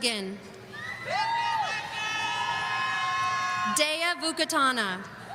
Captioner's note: audience member cheering